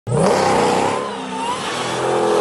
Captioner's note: motor screaming; tires squealing